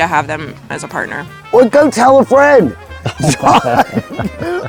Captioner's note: both laughing